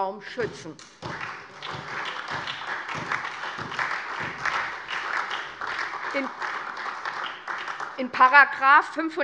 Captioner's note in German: Beifall SPD und vereinzelt DIE LINKE